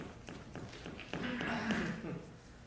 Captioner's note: clears his throat